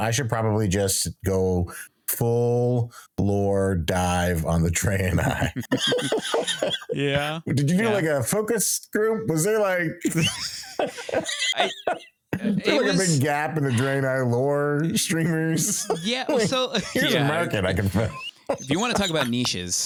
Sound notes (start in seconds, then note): 5.2 laughing; 11.9 laughing